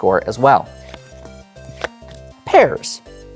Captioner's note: cards slapping